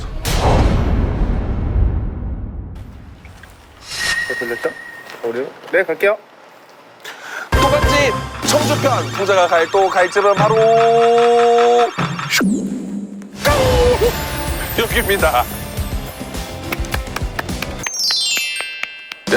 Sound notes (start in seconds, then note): 16.3 applauds